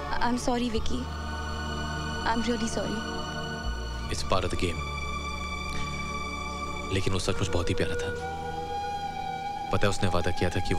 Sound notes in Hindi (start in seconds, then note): none